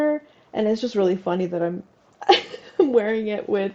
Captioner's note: laugh